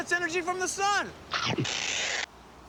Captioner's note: chomp